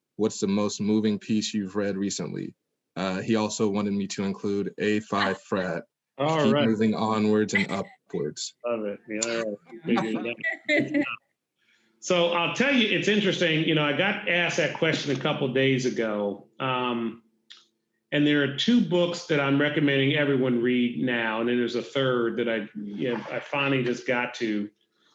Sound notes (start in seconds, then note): 9.9 muttering and laughing